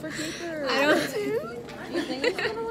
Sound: crying voice

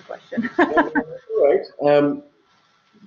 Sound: laughing

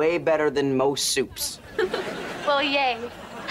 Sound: chuckles

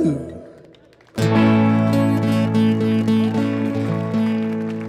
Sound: audience applauding

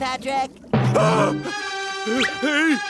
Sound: shrieking

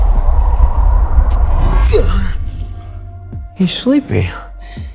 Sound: Rudy gasping

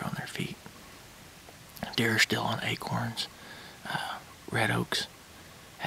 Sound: whispering

